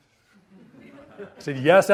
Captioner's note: audience laughs